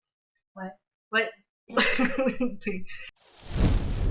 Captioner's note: laughs